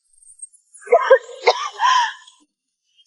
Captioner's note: cough cough